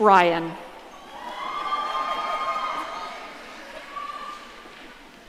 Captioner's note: audience cheering